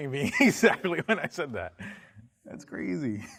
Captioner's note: laughs